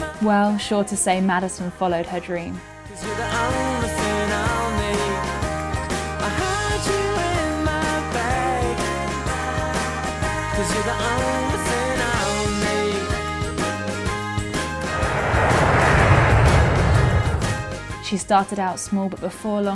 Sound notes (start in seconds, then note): 14.8 airplane engines rumbling